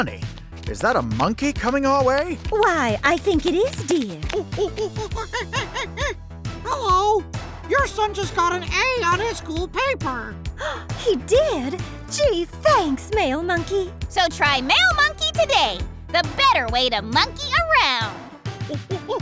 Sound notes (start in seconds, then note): 4.3 monkey noises; 10.6 gasps